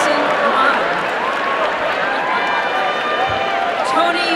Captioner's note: applause and cheering